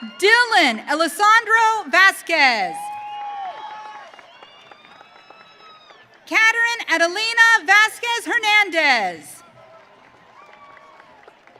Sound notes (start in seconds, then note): 2.4 audience cheering